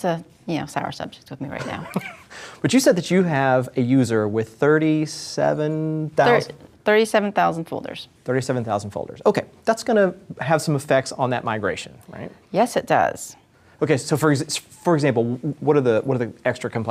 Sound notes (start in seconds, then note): 1.6 laughs